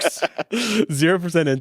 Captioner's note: all laughing